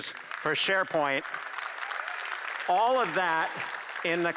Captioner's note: applause